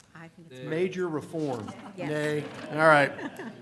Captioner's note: laughter